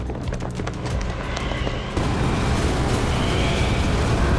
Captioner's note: wind whirling